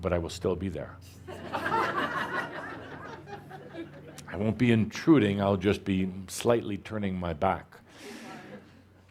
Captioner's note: laughter